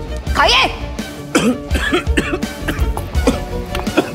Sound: coughs

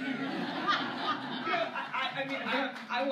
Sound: laughter

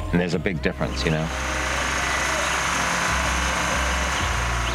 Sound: buzzing

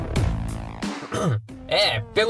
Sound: clears throat

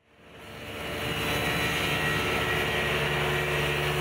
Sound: planer cutting

